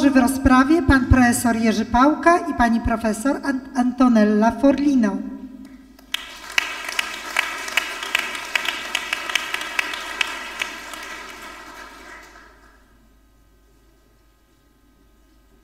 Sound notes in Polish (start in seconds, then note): 5.9 oklaski